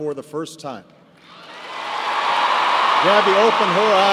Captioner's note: cheers and applause